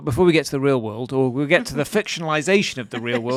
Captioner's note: laughing